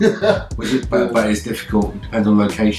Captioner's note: laughing